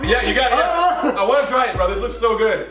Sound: joyous exclamation

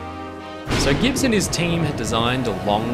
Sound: thunder clap

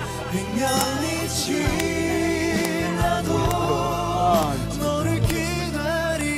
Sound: he claps again in embarrassment

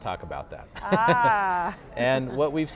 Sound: laughing

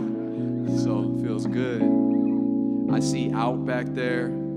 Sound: laughing

